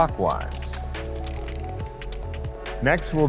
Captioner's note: wrench whirring